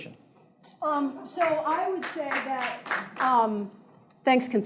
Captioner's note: scattered applauding